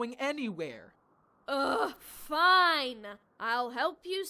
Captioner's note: irritated